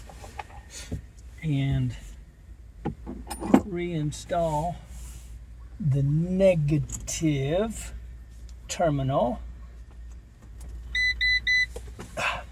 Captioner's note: beeping to indicate a key is in the ignition